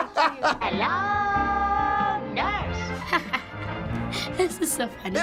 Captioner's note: laughing; laughing